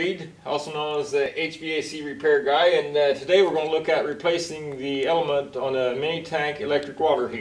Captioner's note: hvac